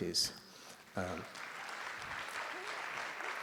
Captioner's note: applause